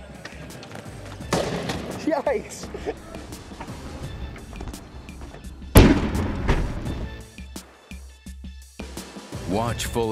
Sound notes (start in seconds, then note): 1.3 rolling...crash!; 2.4 laughs; 3.0 slo-mo: rolling...crash!; 7.7 music hit